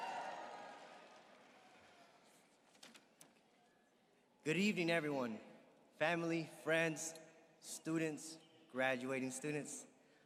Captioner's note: applause